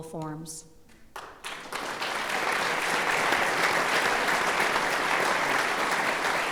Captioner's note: applause